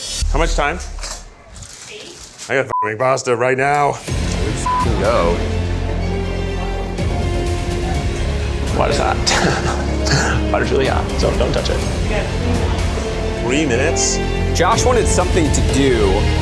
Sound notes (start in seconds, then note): 4.1 beeps; 6.6 suspenseful music